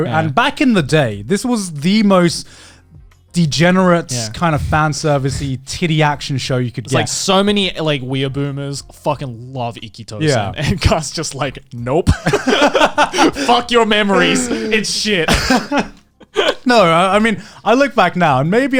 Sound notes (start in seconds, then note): 12.2 laughs